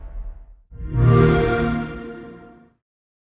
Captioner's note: xbox sound